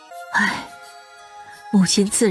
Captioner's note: sigh